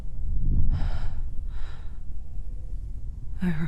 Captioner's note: quivering breath